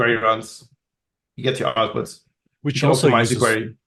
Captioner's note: faintly speaking; both chattering